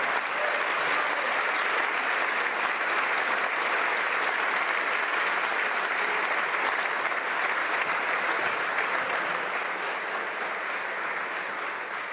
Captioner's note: some Applause